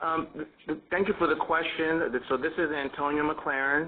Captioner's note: voiceover